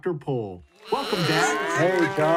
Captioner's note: animal cheering